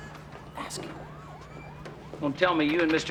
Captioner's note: whispering